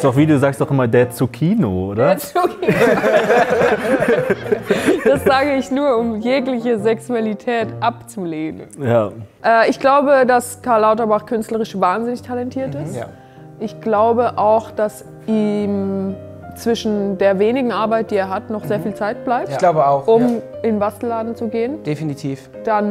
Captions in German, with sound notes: Du sagst auch immer der Zucchino, oder? (lachend:) Der Zucchino! Das sag ich nur, um jegliche Sexualität abzulegen. Ja. Ich glaube, das Karl Lauterbach künstlerisch wahnsinnig talentiert ist. Ich glaube auch, dass ihm ... zwischen der wenigen Arbeit, die er hat, noch viel Zeit bleibt. Ich glaube auch. - Um in den Bastelladen zu gehen.